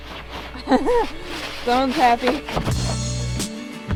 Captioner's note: laughs; upbeat music